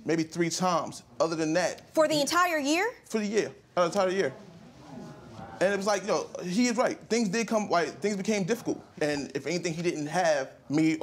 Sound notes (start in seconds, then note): 4.1 audience murmur